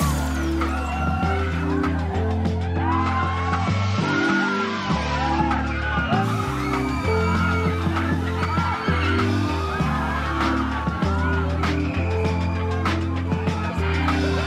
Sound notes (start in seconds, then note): 0.6 laughing